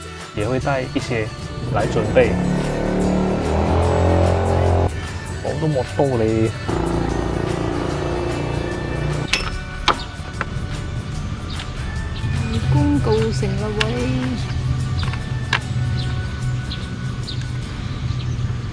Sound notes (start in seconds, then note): 2.7 noise - Motor passes